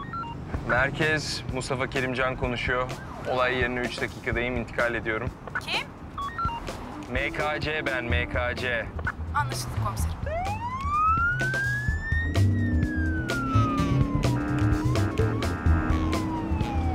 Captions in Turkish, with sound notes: Merkez, Mustafa Kerim Can konuşuyor. Olay yerine üç dakikadayım, intikal ediyorum. -(Telsiz - Kadın ses) Kim? -MKC ben MKC. (Telsiz - Kadın ses) Anlaşıldı komiserim. (Polis siren sesi) (Müzik - Hareketli)